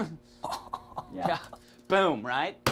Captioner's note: man chuckles